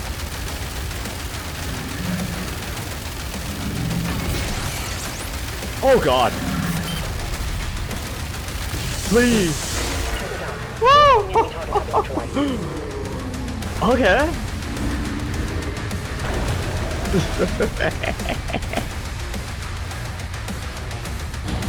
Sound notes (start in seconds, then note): 10.7 surprised victory noises; 16.2 mischevous laughter